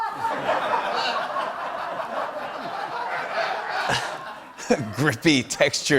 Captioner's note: laughter